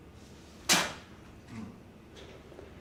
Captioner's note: spits